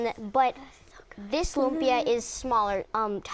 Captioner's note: hushed